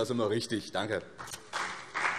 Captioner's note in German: Beifall BÜNDNIS 90/DIE GRÜNEN und CDU